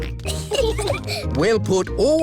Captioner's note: peppa and george giggling